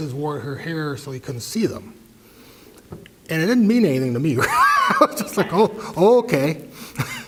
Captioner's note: laugh